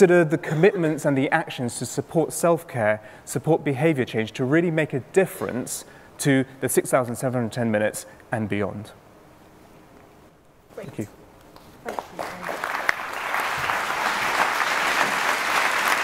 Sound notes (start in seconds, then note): 11.8 applause